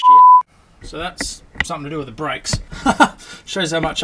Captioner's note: laughing